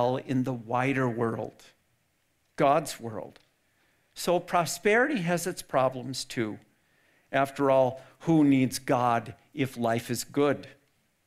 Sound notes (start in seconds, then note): none